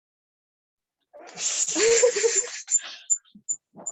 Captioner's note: giggles; microphone feedback